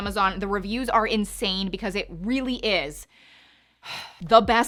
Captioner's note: sighs